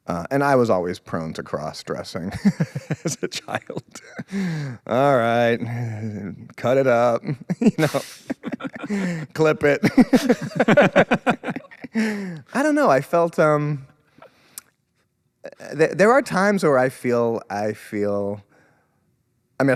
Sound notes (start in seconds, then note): 2.3 laughs; 7.2 laughs; 10.2 both laughing